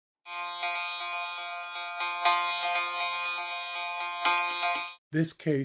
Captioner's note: alarm